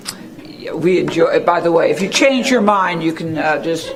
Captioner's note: laughter